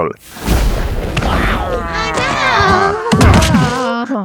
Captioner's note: crash. Boom. CRACKLE; scream and fall into a heap on the floor